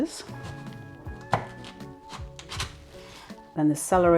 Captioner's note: chopping thunk